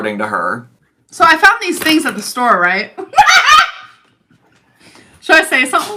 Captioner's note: laughs